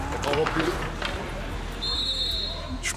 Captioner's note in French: sifflement